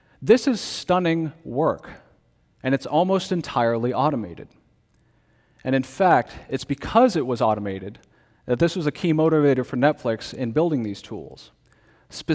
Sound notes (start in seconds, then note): none